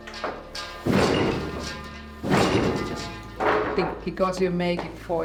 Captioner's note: metal clanking; loom clanking